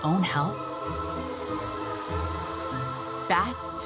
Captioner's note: bats squeaking